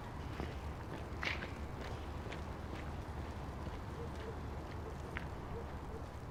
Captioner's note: none